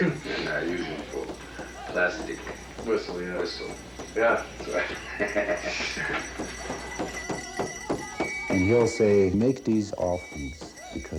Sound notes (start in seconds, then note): 4.7 chuckles